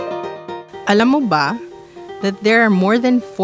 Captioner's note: speaking filipino